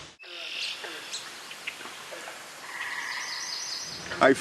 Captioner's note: birds chirping